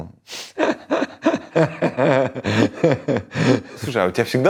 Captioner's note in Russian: Смеётся